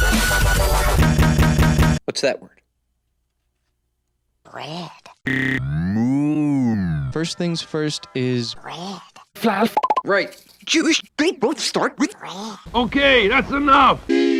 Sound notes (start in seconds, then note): 8.0 Dexter, higher-pitched; 9.7 popping sfx